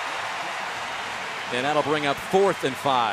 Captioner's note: cheering